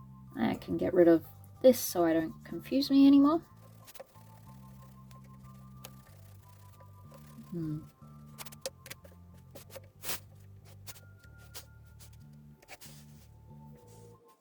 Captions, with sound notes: I can get rid of this so I don't confuse me anymore :P **fast forward paper skrtch skrtch noises**